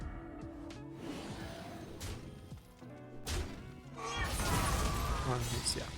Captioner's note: dramatic music; grunting; dramatic music